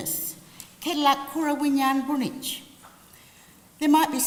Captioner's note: language spoken